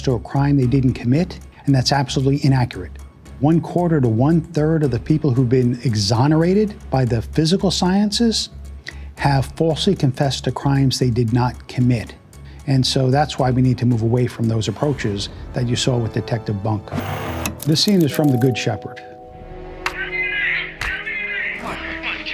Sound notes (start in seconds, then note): 16.9 static